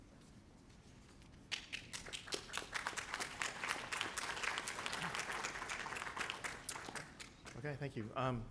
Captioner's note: applause